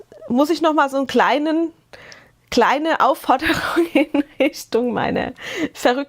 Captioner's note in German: Gelächter